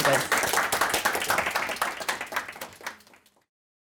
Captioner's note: audience clapping